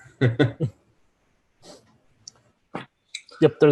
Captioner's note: laughs